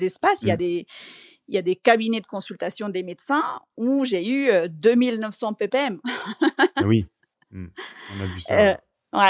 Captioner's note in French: rires